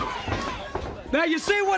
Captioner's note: crowd cheering